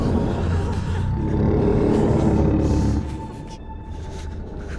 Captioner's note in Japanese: ジャイガーの鳴き声